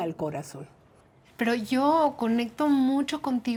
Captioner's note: speaking Spanish